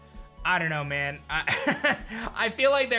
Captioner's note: chuckles